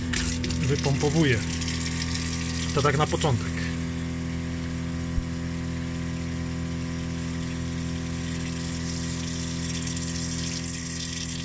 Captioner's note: sound of the water pump